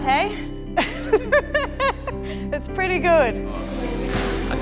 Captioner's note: laughs